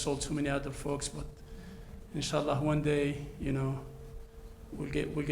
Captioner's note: speaks in foreign language